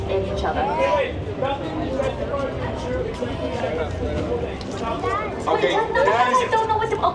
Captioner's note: people chattering in background